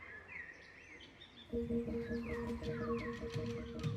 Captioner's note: birds chirping